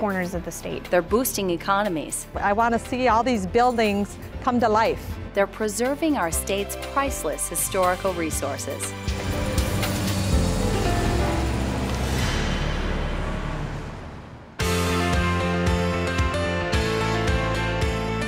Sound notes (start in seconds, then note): 9.0 traffic